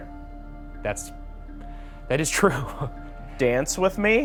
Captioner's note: chuckles